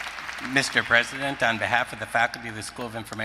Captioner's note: applause